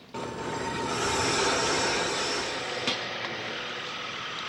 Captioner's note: machine whirring